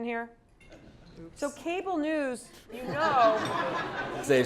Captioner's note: laugh